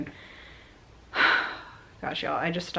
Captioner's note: sigh